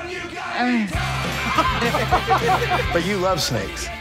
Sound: laughs

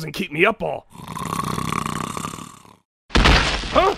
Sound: snoring; crash

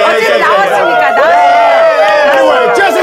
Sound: sound of cheering

